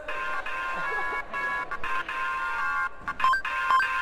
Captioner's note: laughter